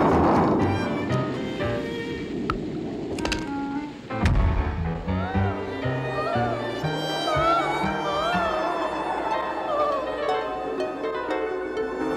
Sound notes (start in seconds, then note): 5.1 screaming; 10.0 dramatic music